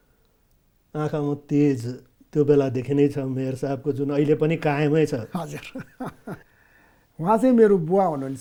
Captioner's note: laughs